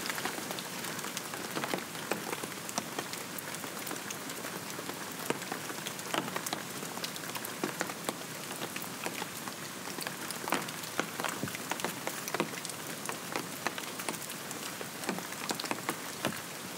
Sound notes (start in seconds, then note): 1.4 rainfall continues